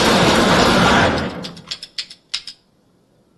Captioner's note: series of loud gun shots; series of quiet gun clicks